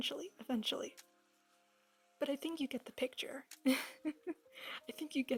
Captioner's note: chuckle